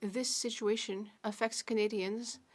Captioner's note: speaking French